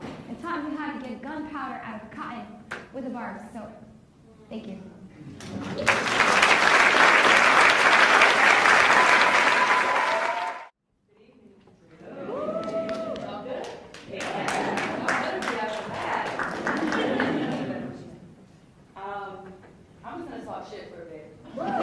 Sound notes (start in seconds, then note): 5.8 cheers; 9.0 applauds; 13.6 applauds; 16.6 laughs; 21.5 laughs